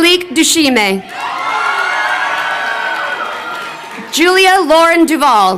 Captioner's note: crowd cheering